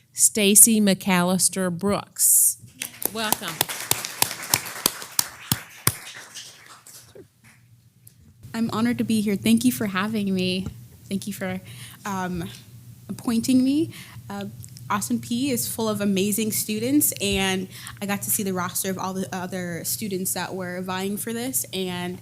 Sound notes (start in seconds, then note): 2.8 applause